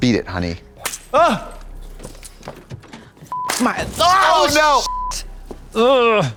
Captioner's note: beep